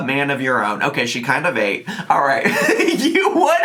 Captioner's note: laughing